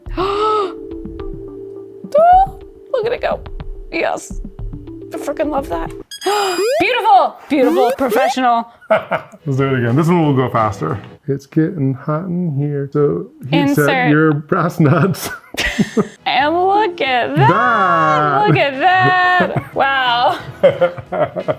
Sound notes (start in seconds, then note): 15.2 both laughing; 20.6 laughs